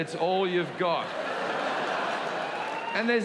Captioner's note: audience laughing